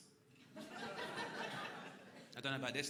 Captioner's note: crowd laughing